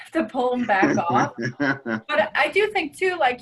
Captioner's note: laughing